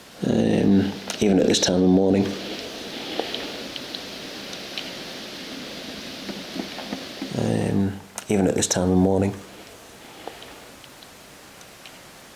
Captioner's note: replay of inhale noise